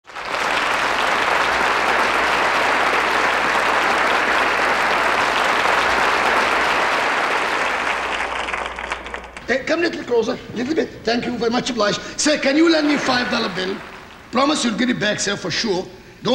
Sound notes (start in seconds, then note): 0.7 audience clapping